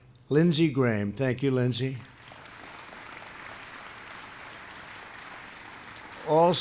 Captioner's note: applause